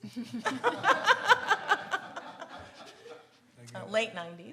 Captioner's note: audience laughs